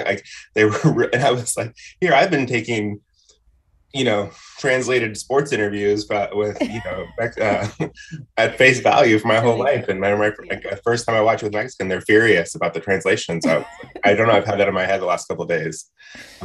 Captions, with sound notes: Like, they were, I was like, here, I've been taking, you know, translated sports interviews, but with, you know, at (laughs), at face value for my whole life, and my first time I watch with Mexicans and they're furious about the translation. So I dunno, I've had that in my head the last couple days